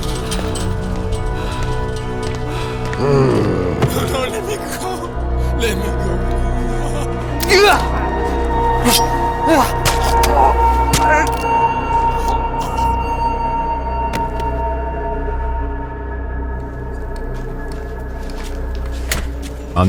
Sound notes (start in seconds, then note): 4.9 Heavy footsteps approach. Loam grunts; 9.7 squelching guts as man is stabbed; 19.6 ominous music transitions to the sounds of a narrow alley. A door opens